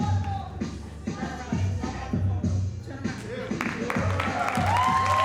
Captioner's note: audience faintly chattering; audience cheering and applauding